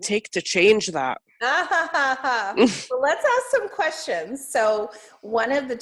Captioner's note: laughs